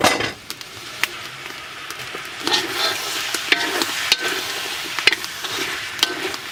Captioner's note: loud sizzling